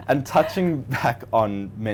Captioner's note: laughing